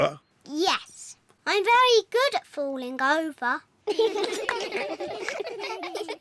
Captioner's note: all giggle